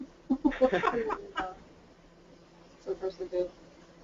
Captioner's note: laughter